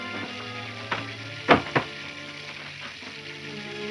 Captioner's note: door slams